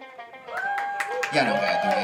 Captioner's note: group cheers